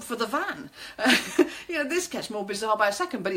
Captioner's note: laughing